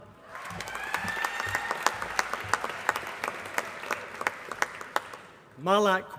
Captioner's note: applause